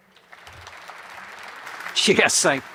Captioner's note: audience applauds